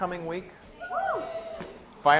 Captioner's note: class cheers